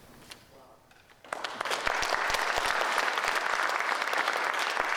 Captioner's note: audience applauding